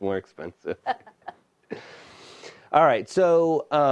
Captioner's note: laughing